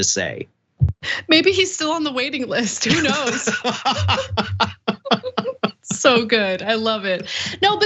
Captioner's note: laugh